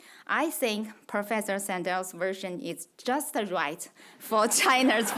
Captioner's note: audience laughs